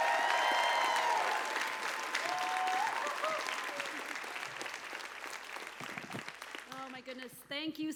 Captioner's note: applause